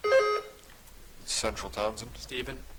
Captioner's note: buzzer chiming